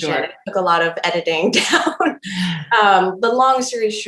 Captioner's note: laughing